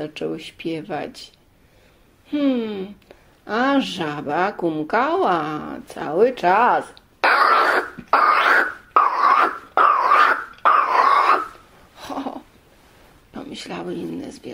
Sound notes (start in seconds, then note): 7.2 croaking noises